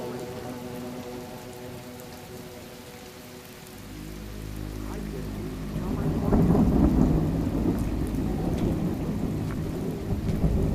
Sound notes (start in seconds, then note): 0.1 suspenseful music; 5.7 television playing in the background